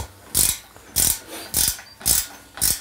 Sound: crackling noises

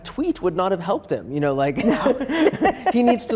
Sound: laughs

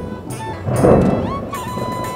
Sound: clouds rumbling

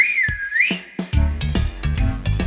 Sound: whistle

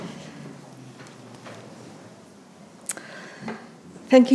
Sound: audience applauding

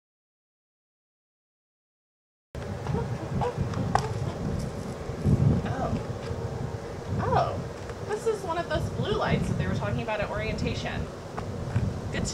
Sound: skid

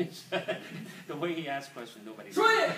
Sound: speaking foreign language; man laughs

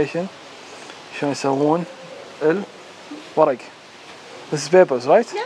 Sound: speaking foreign language

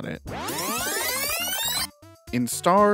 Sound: rewind effect

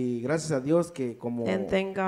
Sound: speaks in foreign language

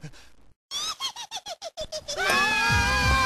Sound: giggles

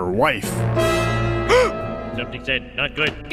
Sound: gasp

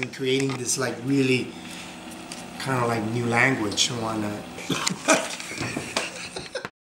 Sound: laughs

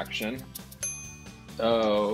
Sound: timer dinging

